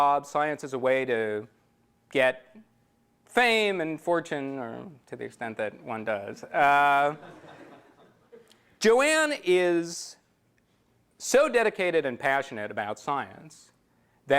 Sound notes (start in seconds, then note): 7.1 laughter